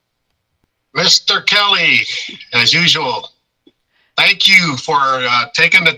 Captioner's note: chuckles